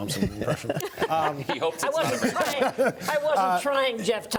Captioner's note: laughing